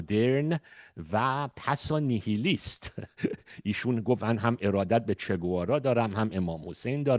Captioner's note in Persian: خنده